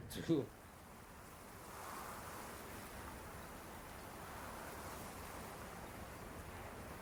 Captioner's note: cold wind